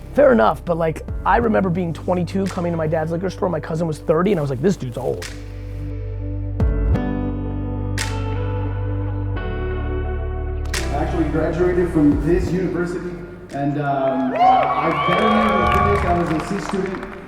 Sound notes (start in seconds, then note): 6.0 slow music; 13.6 crowd cheers